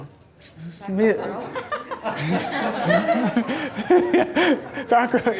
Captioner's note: voiceover; audience laughter